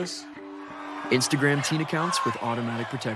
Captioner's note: crowd cheering